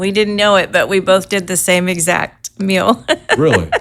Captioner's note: chuckles